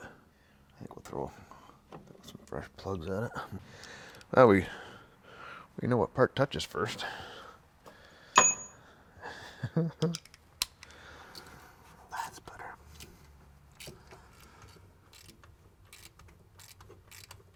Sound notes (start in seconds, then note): 9.3 chuckles